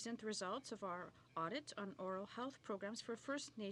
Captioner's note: speaking French